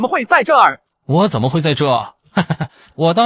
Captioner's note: laughs